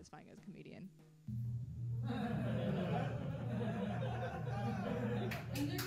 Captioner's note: satisfying slow laughter